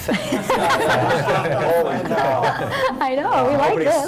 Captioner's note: chattering